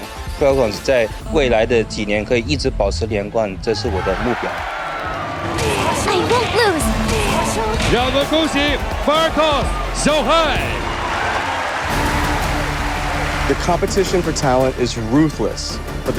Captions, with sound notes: I want to help Falcons maintain their winning streak in the years ahead. That is my goal. [in English] I won't lose. [announcer, in Chinese] Let us congratulate, Falcons, Xiaohai! [man, in English] The competition for talent is ruthless,